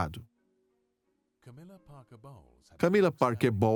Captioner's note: voiceover